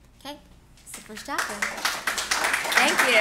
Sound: clapping

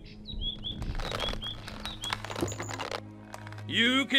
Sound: creaking of leather

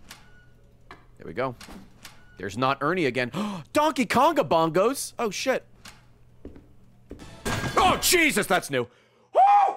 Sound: gasps

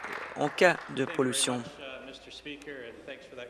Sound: applause

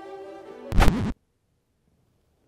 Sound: rewind noise; music stops

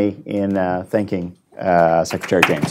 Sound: applause

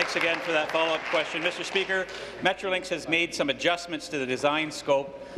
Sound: applause

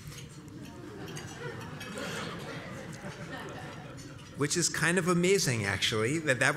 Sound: laugh

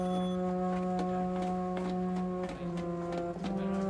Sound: phone ringing

